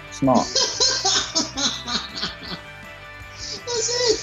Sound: laughing

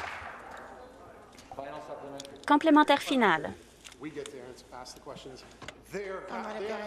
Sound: applause

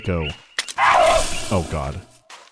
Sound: baboon shriek

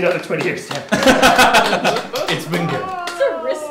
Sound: laughter

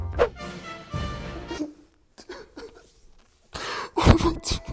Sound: starts sobbing

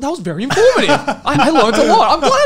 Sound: laughs

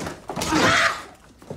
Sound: grunting

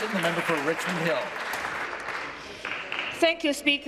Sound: applause

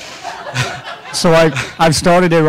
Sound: laughing

